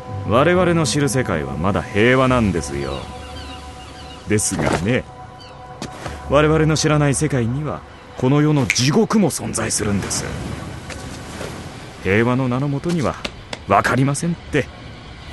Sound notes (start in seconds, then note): 7.7 waves crash against shore